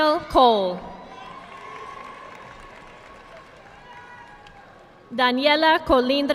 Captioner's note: audience clapping